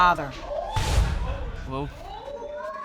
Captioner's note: audience gasps